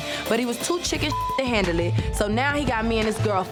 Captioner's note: beep